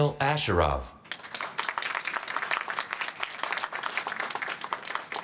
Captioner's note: applause